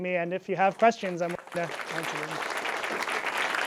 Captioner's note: audience clapping